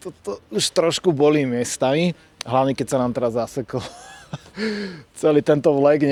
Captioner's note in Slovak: smiech